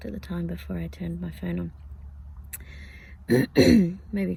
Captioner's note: clears throat